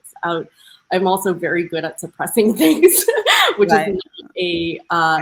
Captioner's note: laughing